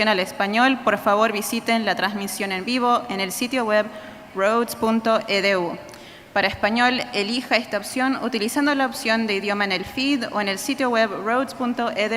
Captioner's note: speaking Spanish